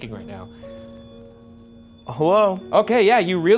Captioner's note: REM pod beeping